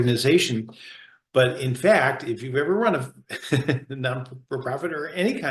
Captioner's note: laughs